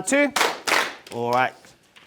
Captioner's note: clap